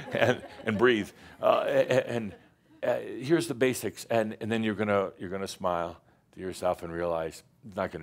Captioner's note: some laughter